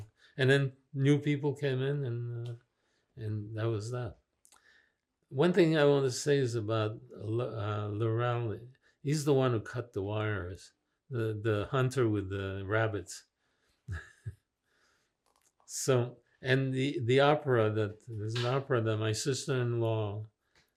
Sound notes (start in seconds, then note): 13.9 laughing